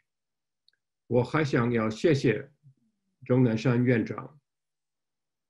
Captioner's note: speaking Chinese